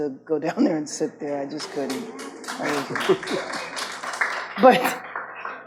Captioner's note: audience claps